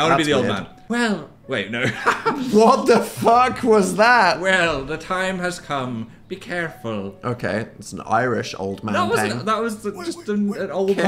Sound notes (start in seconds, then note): 1.1 imitates old man; 1.8 laughs; 4.4 imitates old man